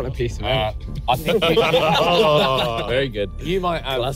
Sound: everyone laughs

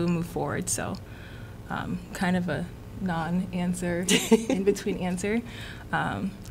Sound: laughter

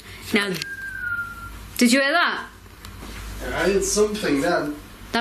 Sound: whistling

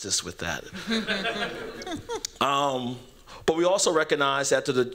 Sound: laughter

